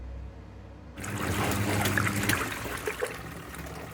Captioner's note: washing machine